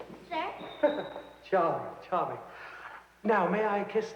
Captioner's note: laughs